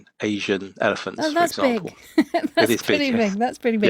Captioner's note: laughs